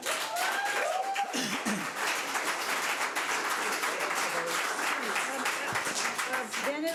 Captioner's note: audience cheers; audience applauds